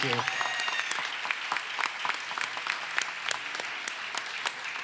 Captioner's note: audience applauds